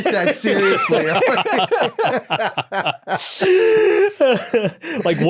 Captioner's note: group laughing